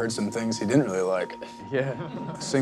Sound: laughter

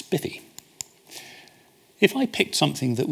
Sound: clicks

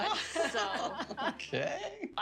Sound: laughter

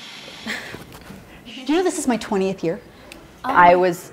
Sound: white noise; laughs

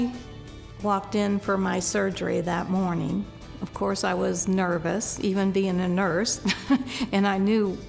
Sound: laughter

